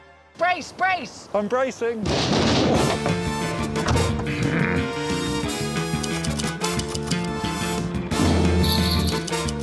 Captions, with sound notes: -Brace, brace. -I'm bracing. -[thumping] -[theme music plays] [grunting] [typewriter clacking] [drumming and jingling]